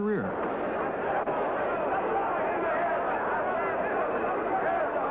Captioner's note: crowd cheers